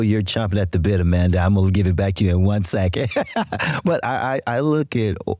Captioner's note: laughs